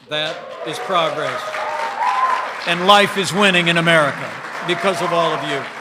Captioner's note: applause